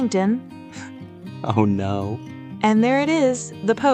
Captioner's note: laughs